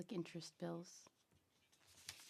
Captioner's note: speaking French